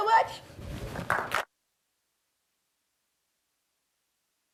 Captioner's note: applause